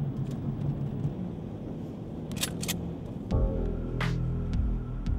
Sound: gun cocks

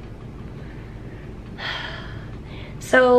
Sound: heavy sigh

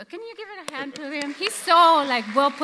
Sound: audience applauds

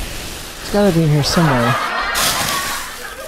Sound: laughter

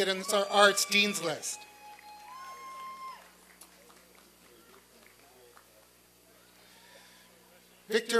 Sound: applause and cheering

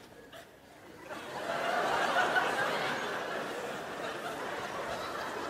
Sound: crowd laughs

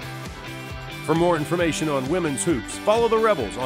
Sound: voiceover

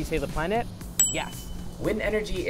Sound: bell dings

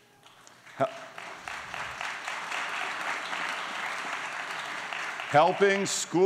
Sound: applause

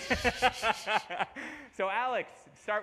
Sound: laughter

